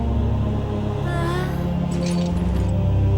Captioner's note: moans